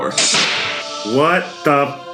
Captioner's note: hissing door sound